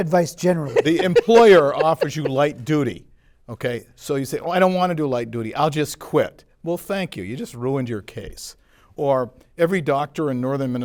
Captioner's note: laughter